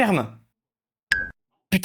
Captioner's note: ding